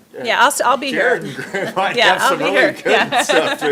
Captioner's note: laughing